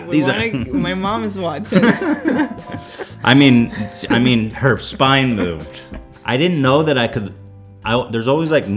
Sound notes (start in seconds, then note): 1.6 laughs